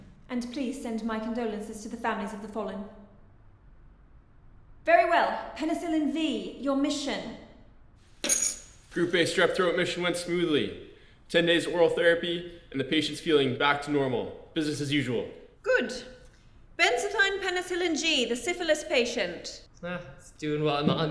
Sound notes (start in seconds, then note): 8.2 bacterial dog tags clink